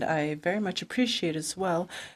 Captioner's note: speaking in French